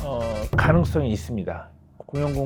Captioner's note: drum sound effect